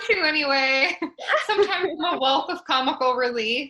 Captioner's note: laugh